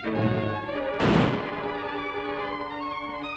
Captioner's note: gunshot